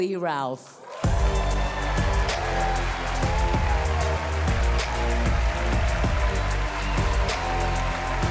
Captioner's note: audience cheering; cheerful music